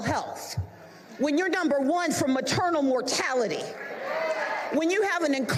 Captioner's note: applause